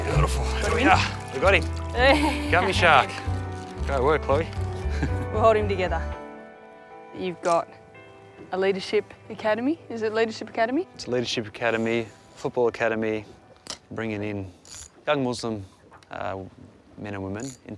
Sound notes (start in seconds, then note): 2.0 laughing; 4.8 laughs